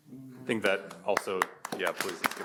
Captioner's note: audience applauds